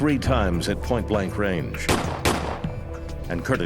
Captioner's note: gunshots